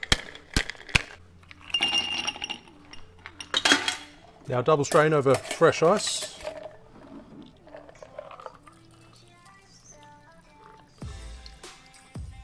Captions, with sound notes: (ice clanking) Now double-strain over fresh ice.